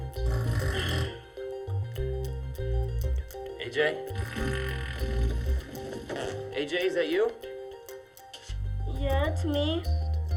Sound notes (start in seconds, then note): 0.2 farting sound; 4.2 student farts